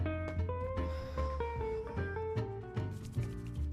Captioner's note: sighing; rustling